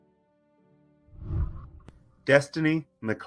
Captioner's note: whooshing